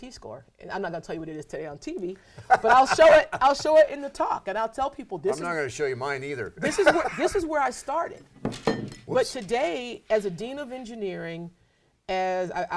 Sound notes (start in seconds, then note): 2.3 laughing